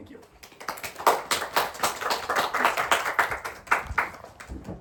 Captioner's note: applause